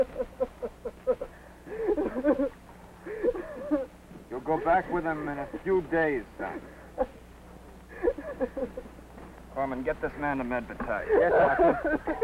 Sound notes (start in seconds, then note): 0.0 Corporal crying hysterically; 7.9 corporal crying